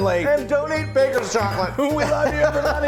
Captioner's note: laughing